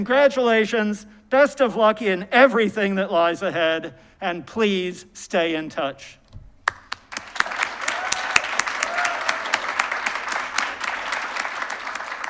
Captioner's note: applause